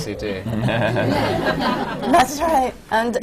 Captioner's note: laughter